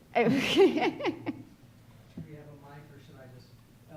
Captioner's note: laughing